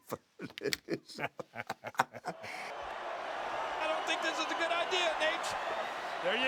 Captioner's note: laugh